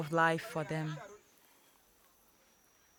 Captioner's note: indistinct insects buzzing